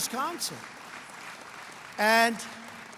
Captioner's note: applause